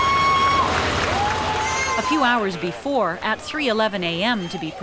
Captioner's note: crowd cheers and applauds